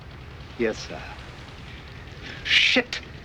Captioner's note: laughter